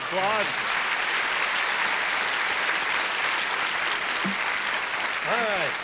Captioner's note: applause